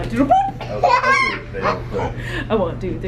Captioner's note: giggles